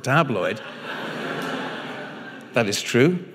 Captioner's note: audience laughing